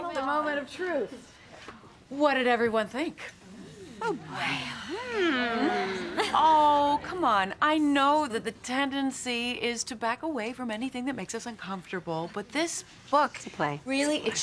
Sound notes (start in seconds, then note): 3.8 women sighing